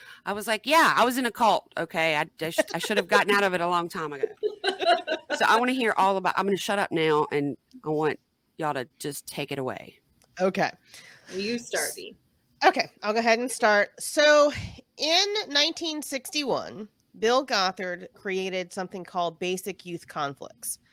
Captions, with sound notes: I was like, yeah, I was in a cult. Okay. I, I should, I should have gotten out of it a long time ago. [laughing] So I want to hear all about it. I'm going to shut up now and I want y'all to just take it away. Okay. You start, Dee. Okay, I'll go ahead and start. So in 1961, Bill Gothard created something called basic youth conflicts,